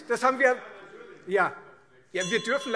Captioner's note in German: Zurufe - Glockenzeichen